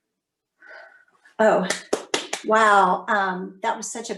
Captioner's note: claps